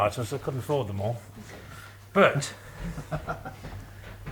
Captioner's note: laughs